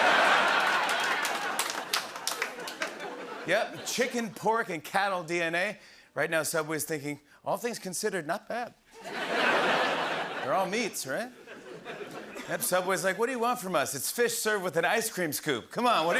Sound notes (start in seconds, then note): 0.0 laughter; 9.0 laughter